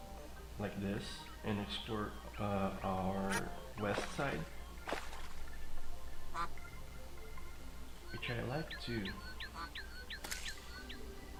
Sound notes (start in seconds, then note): 6.1 duck quaks; 10.1 birds chirping